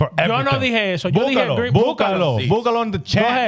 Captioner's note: speaking In Foreign Language